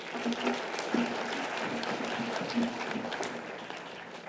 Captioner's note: audience applause